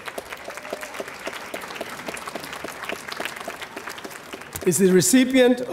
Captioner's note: audience applauding